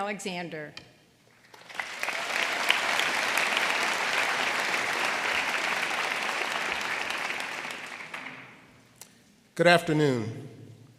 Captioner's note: applause